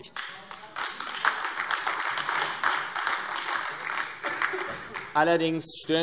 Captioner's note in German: Beifall AfD